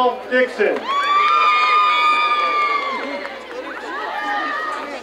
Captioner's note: crowd cheering